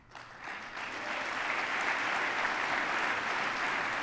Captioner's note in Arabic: تصفيق